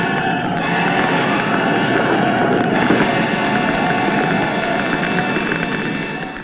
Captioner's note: flames crackling; flames roaring